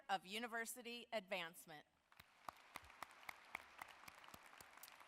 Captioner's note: apapplause